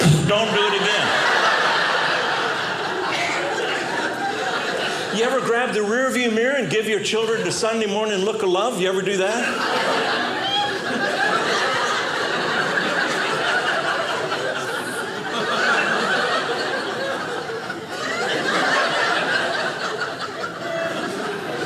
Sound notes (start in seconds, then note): 0.0 audience laughing; 9.2 audience laughing